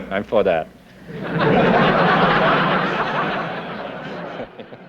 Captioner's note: laughter